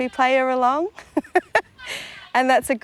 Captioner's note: laughs